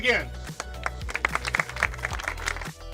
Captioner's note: applauding; upbeat music